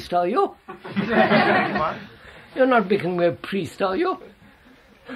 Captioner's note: laughter